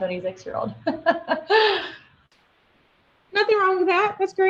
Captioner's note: laughing